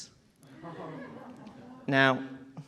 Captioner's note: audience chuckling